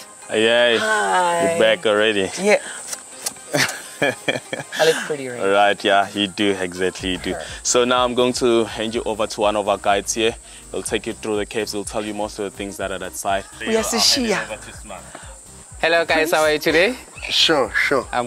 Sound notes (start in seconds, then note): 3.0 lips smacking; 3.4 laughing; 13.8 Lasizwe speaking in foreign language